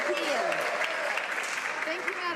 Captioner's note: applause